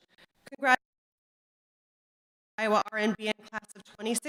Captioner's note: audio cuts out